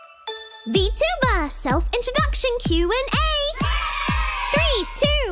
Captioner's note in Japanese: 子供たちの歓声